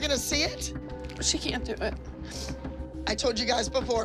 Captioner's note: sniffles